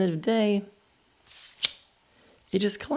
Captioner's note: metallic swish